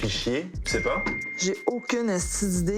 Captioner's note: phone chimes